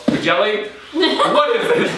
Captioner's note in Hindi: हस रहा